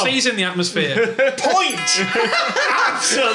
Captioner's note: beeps; dong